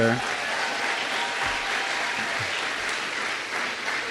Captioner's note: applause